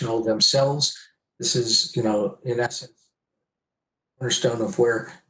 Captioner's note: murmurs